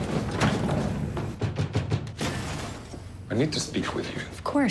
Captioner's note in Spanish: golpeando la puerta